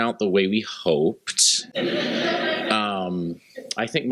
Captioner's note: laughter